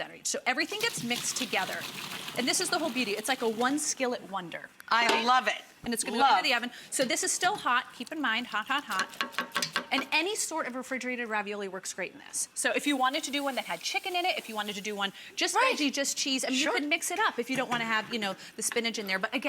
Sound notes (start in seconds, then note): 0.6 water pouring; 9.0 skillet tapping